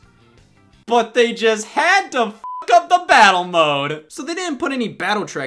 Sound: beep

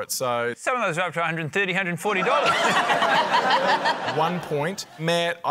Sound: laughter

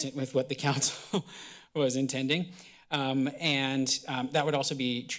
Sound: laughter

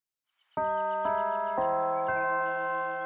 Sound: bells chime

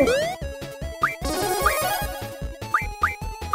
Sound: game sounds

